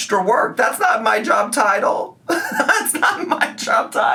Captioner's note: laughs